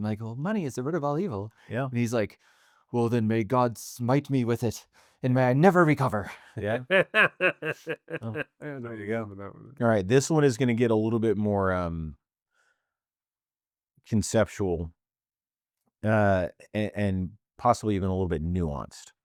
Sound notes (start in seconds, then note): 6.6 laughing